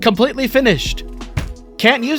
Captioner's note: slam of disappointment